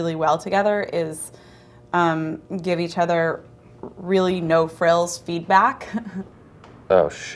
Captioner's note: laughs